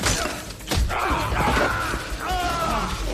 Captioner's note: screams